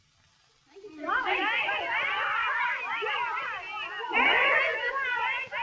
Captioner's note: chattering